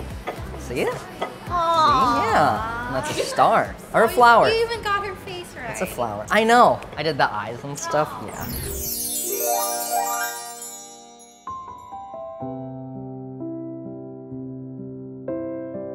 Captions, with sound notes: See it? - Aww. - Yeah. And that's a star or a flower. - You even got her face right. - That's a flower. I know! I did the eyes and stuff. Yeah. (twinkle) (romantic peaceful music)